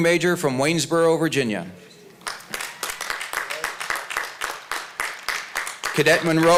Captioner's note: applause